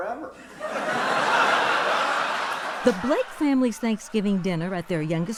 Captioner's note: laughter